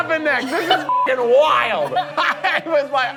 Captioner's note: beeps